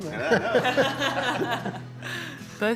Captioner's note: laughing